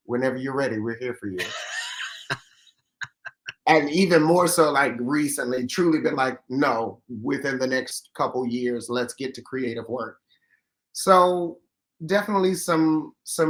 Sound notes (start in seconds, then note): 1.3 laughs